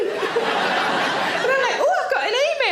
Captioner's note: audience laughs